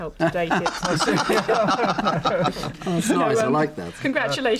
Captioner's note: group laughs